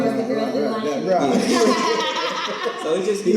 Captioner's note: all laugh